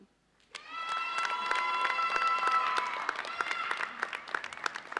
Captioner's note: audience cheers and applauds